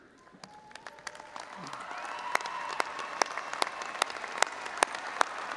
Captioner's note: all applauding and audience cheering